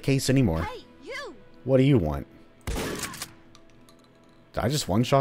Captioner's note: BOOM, ded